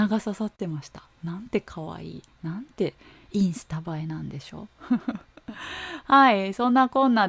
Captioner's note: laughs